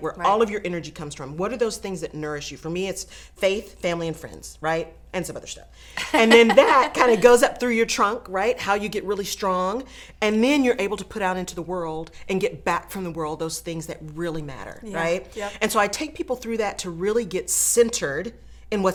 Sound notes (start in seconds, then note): 6.0 laughing